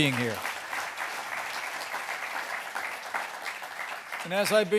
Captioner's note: applause